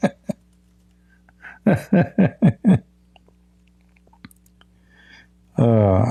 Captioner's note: Ketawa